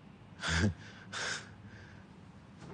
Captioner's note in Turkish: Burak şaşkınlıkla güler